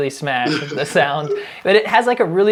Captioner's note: laughs